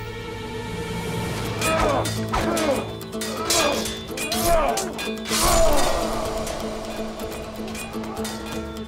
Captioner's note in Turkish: Dövüş sesleri; Müzik - Hareketli